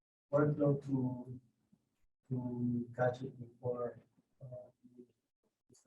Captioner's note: faintly speaks